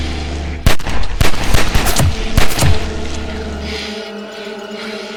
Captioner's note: gun banging; Goocher gasping; tense music